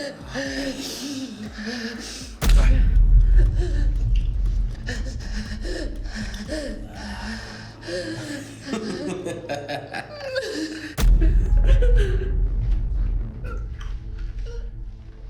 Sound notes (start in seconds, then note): 2.2 dramatic music; 8.8 Ben laughing